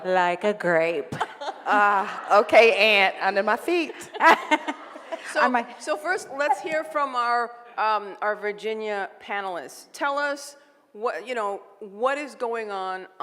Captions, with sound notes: - Like a grape. - Ah, okay ant under my feet. (laughs) - So, first let's hear from our Virginia panelist, tell us you know, what is going on